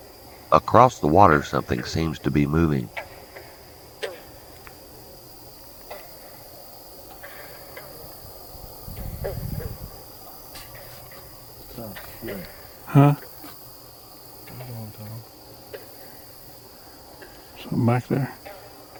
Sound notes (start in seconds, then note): 3.3 katydids forest sounds